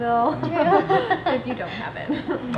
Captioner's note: laughing